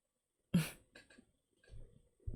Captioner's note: chuckles